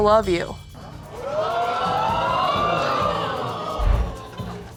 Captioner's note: audience exclaiming